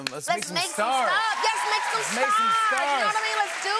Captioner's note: cheers and applause